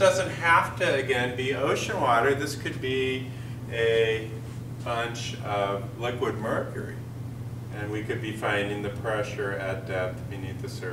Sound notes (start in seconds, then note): none